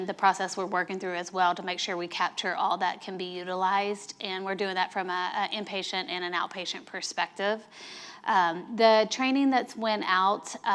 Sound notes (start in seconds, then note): none